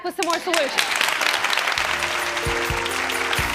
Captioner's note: clapping